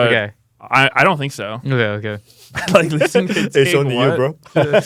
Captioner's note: laughs